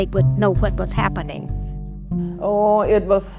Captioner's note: soundbite of archived recording